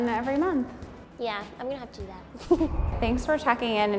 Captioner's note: giggles